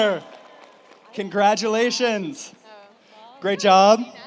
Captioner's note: audience applauds